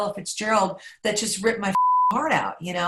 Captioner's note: beep